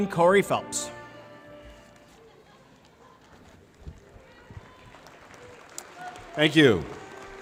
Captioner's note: applause